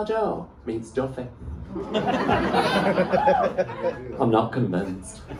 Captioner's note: laughter